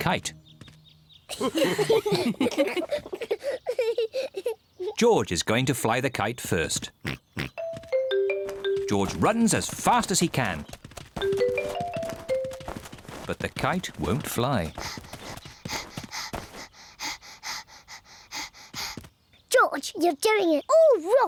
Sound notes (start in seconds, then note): 1.3 all chuckle; 6.1 snorts; 14.7 panting